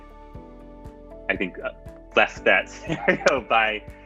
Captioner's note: laughs